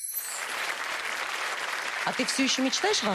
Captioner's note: applause